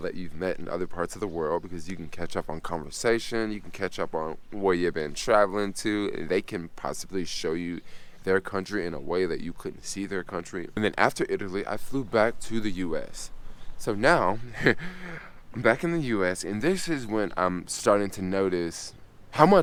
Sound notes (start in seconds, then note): 14.2 chuckles